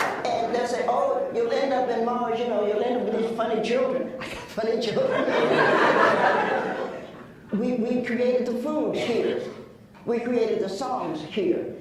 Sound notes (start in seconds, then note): 0.0 laughs; 4.9 laughs